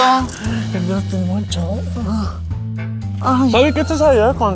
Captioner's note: more sexy whispering